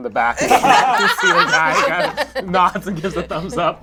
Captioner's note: all laugh